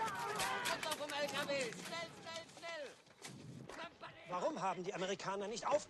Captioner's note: speaking in german